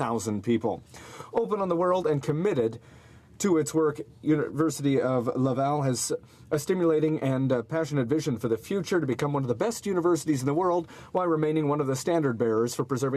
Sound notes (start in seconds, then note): none